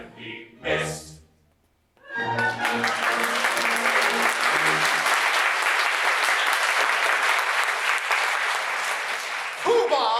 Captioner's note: music & applause